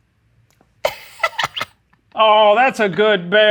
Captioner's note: laughs